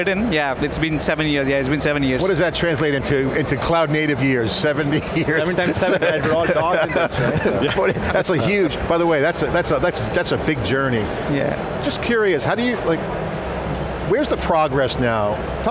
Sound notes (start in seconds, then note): 4.9 laughs